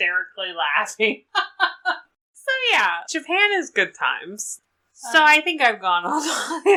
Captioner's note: laughs